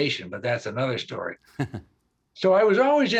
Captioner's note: chuckling